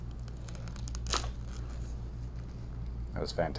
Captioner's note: neck cracking